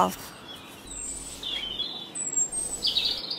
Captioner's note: birdsong